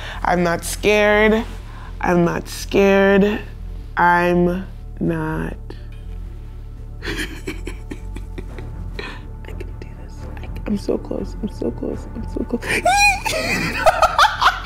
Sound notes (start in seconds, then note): 7.2 gasping